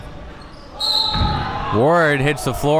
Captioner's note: whistle blows